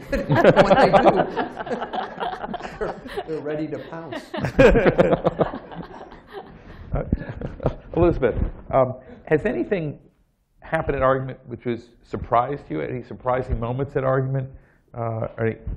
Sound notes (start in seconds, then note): 4.1 laughter